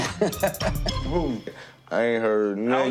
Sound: Momma Dee laughs

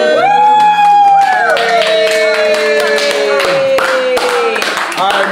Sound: all cheering; hands clapping

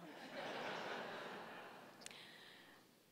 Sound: laughing

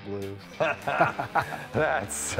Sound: chuckling

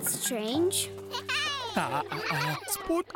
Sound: children exclaiming happily

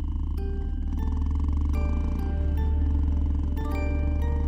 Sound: motorcycle sound

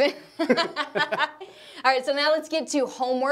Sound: laughing

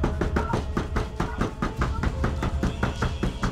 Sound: door banging

